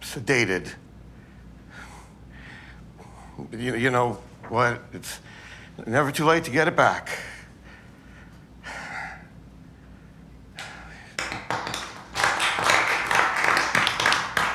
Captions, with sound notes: sedated. You know what? It’s... never too late to get it back. (audience clapping)